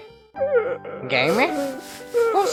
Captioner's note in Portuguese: Barulhos de choque e depressão